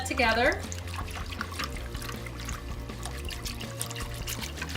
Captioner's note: liquid sloshing